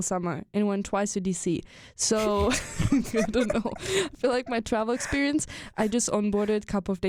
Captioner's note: both chuckle